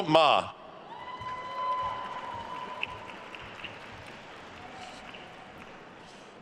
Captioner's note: attendees cheering and applauding